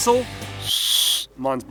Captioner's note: attempts to blow whistle